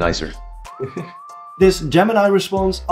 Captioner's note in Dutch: lacht